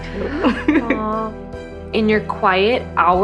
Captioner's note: laughing